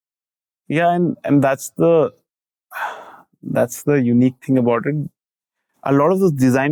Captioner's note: sighs